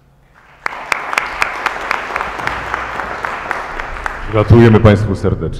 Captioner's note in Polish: oklaski